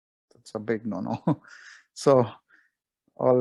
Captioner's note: chuckles